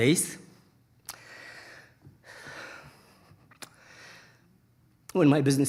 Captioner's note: breathing shakily